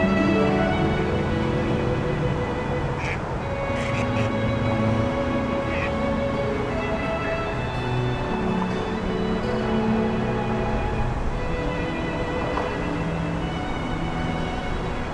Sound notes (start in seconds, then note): 2.9 ducks quacking